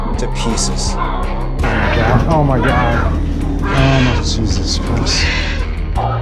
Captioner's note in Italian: Pianti di uccelli mentre vengono attaccati